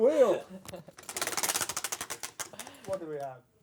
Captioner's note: ratcheting